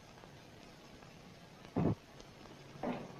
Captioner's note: door shuts; door opens